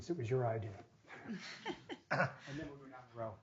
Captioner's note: laughing